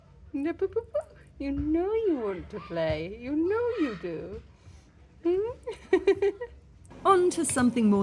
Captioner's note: laughing